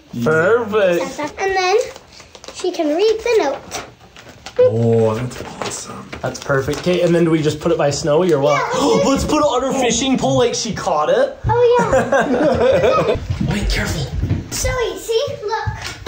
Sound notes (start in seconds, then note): 8.7 person gasps; 11.7 people laughing